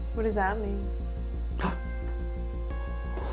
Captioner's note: gasps